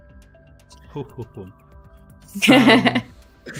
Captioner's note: laughs